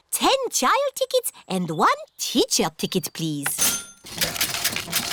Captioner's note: cash register dings